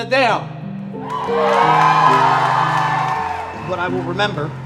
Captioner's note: applause